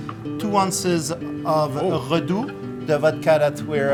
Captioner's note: speaking in French